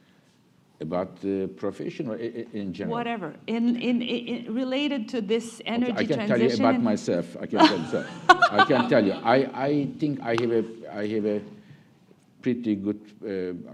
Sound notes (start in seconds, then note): 7.6 laughter